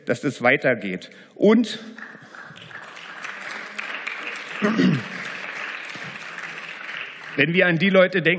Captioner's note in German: Beifall